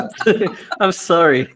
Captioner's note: laughs